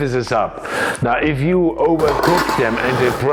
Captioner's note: pot clanging